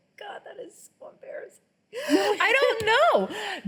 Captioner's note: laughing